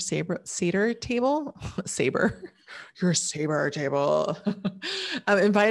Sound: laughs

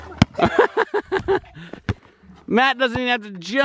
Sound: laughs

